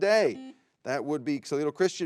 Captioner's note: buzzer beeps